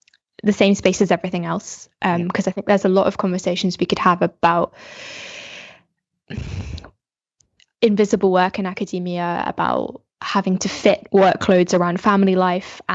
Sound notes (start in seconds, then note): 4.7 takes deep breath